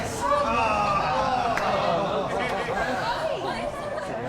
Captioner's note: all laughing